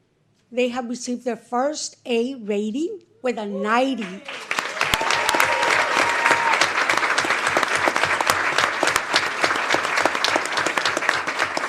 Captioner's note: applause